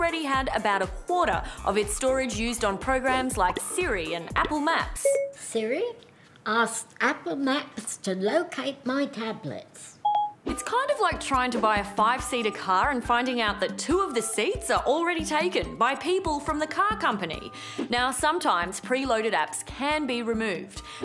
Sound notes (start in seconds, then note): 5.0 Siri beeping